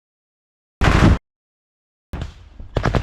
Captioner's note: Russian BMP fires a shot; fires from RPG